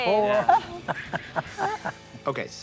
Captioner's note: Si laughs